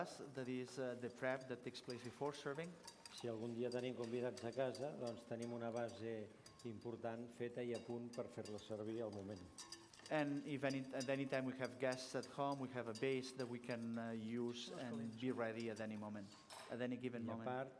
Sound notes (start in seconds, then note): 4.3 non-english speech